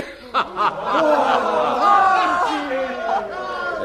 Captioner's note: laughter